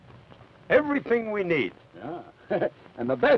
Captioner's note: chuckles